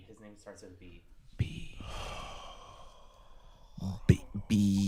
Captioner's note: whispering; exhales